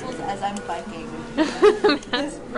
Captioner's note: woman laughs